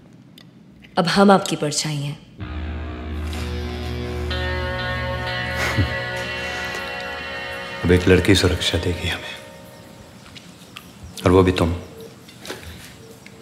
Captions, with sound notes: Now I am your shadow. [Chuckles] So a female will give me protection now. And from you.